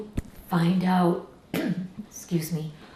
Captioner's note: clears throat